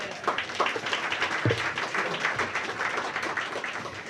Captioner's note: applause